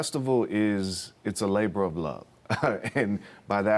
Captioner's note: chuckles